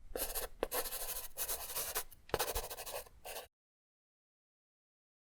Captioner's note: pen scratching